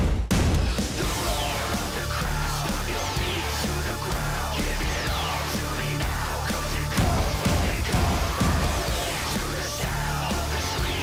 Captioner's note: crowd cheering